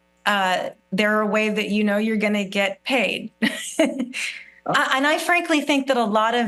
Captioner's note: laughs